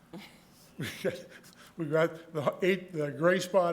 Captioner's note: soft chuckle